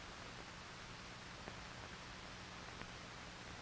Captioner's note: none